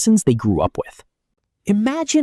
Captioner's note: pause